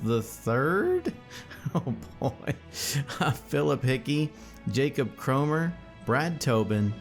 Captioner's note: laughs